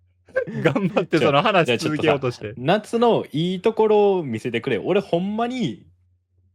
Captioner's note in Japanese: 笑い